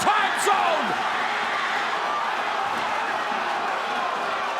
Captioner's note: crowd cheering